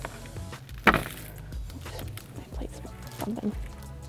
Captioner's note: plate clattering